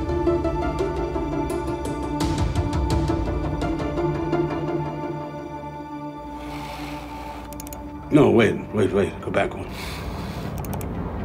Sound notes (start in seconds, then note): 7.4 computer clicking